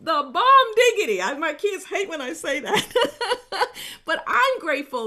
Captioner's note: chuckles happily